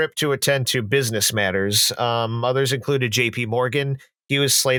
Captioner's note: none